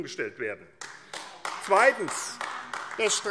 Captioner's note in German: Beifall AfD